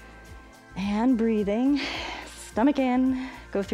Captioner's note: exhales